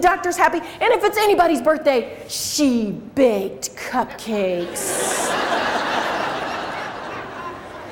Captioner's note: crowd laughs